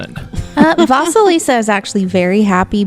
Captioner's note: laughs